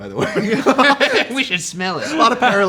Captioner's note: group laughs